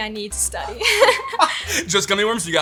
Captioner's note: both laugh